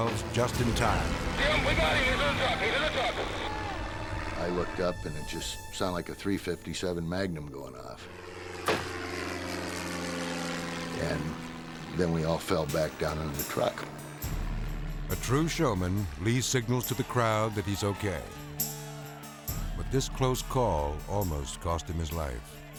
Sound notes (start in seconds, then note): 8.6 wire snapping; 9.0 plane roaring